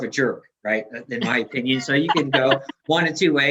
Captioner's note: laughs